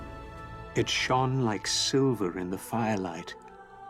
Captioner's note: narrator reading on-screen text